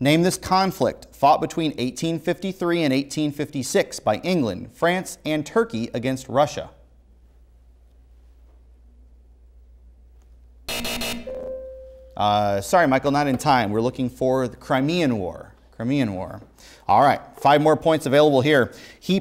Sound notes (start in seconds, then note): 10.7 buzzing; 10.7 beeping